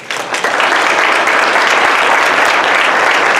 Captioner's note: applause